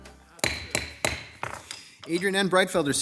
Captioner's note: gavel thuds